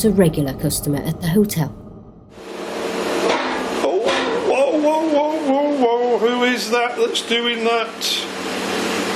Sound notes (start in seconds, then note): 3.1 loud banging; 3.2 banging